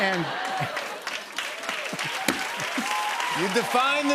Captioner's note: cheers and applause